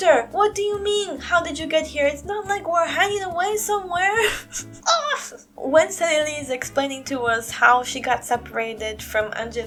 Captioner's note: high pitched grunt